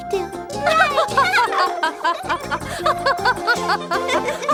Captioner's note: laughing